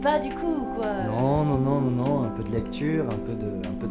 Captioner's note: conversation en français